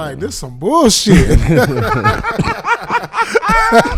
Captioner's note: laughing